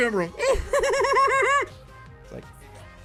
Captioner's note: muffled laughter